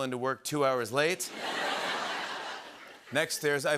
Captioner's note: laughter